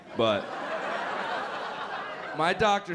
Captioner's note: laughter